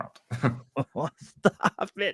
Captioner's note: laughs